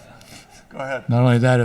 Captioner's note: laughs